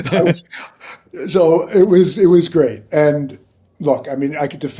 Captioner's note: laughing